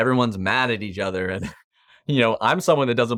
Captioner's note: chuckles softly